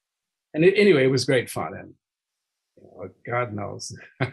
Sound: laughing

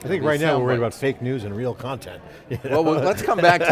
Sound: laughing

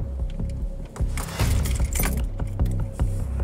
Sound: keys banging around

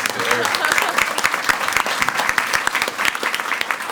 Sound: all applaud

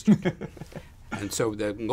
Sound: laugh

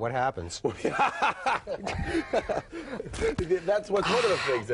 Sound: Penn laughing

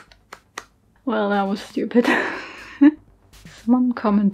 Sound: goofy laugh

